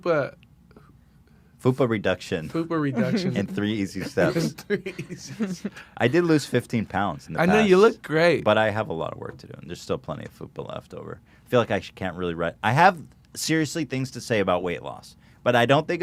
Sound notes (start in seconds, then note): 4.6 laughtalk